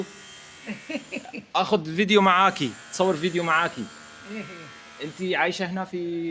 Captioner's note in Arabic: ضحك